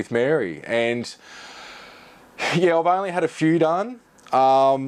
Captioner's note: inhales deeply, exhales